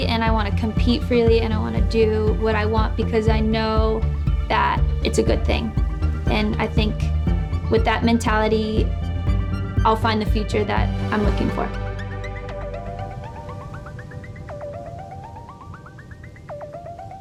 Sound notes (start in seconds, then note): 11.9 beeping